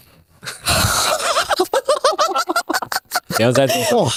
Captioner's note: laughing